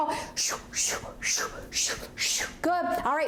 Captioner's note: whooshing imitation